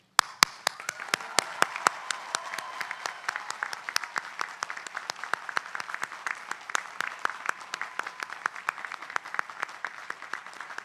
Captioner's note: applause